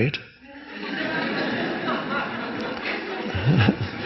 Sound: audience laughs

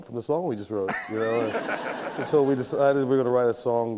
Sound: laughter

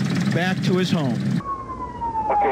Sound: police Siren

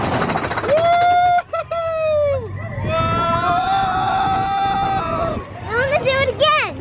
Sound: cheering; people shouting

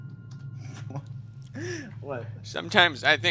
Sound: gasp

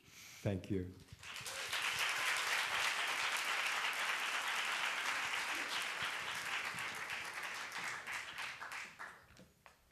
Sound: applause

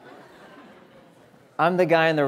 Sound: audience laughing

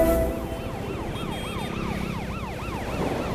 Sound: siren wailing

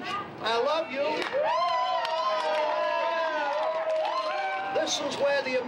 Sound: cheers and applause

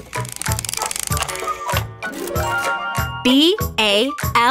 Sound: mechanical whirring

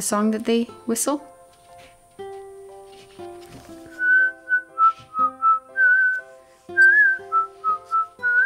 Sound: whistles

